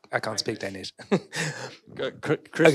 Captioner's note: foreign language